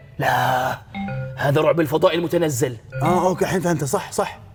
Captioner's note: none